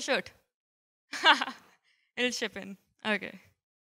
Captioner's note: chuckles